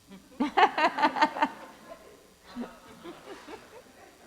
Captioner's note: group laughing